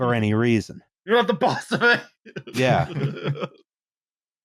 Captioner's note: laughing